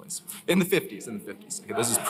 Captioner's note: laughter